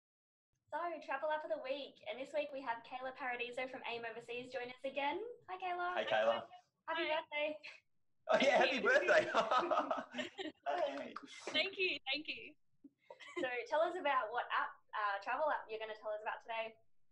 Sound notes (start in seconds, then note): 10.6 clap clap clap